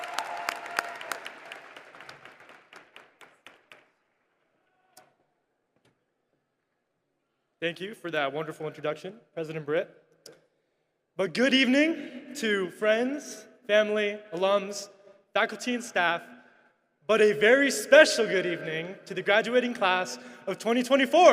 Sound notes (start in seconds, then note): 0.0 applause